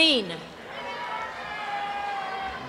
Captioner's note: applause and cheering